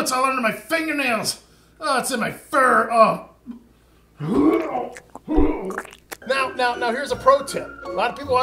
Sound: vomits

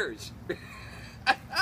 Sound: shooter laughs

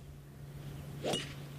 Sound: nat of golf hit

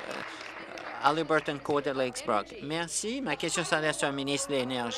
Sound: applause

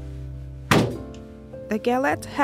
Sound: cupboard clunks

